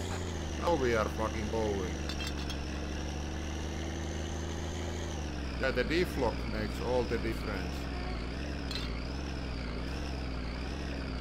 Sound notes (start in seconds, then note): 2.1 bottles clatter; 8.9 engine acting funny